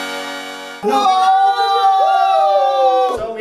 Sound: general sounds of awe

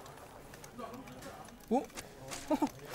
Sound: laughing

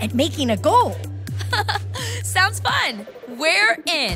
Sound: chuckles

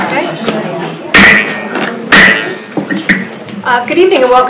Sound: gavel banging

